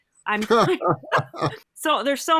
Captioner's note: laughing